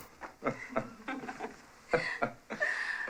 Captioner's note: chuckles